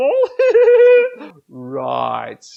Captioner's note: Scruff laughing